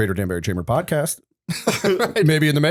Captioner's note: laughter